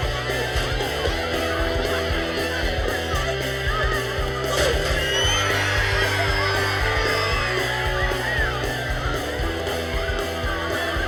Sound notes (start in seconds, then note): 5.4 students cheering